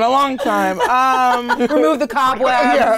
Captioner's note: laughing